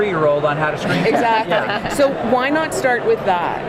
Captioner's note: laughs